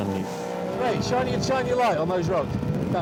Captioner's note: lifeboat engine whirring